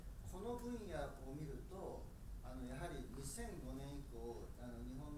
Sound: speaking in foreign language

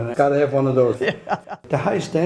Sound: laughs

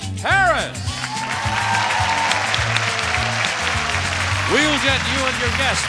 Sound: audience cheering and clapping

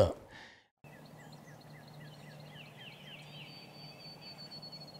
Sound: birds chirping

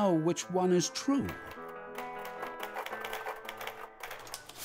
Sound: typing sounds

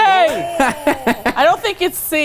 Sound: laughing

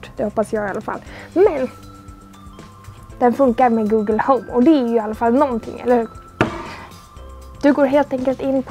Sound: bang

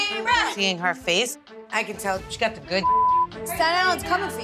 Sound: beep

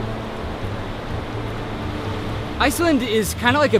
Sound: water gushing

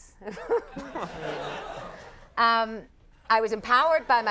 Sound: audience laughing

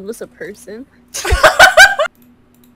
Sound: everyone laughs

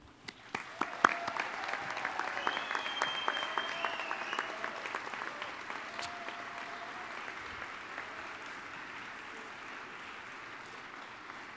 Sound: applause

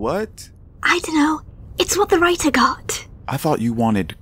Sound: whisper

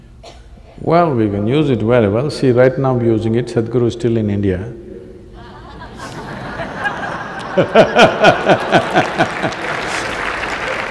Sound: laughter

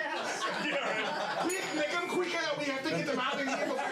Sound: laughter; bell rings

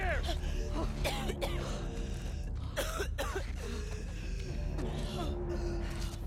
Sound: coughing

